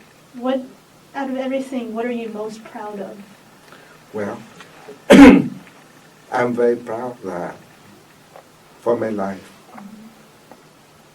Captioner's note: coughs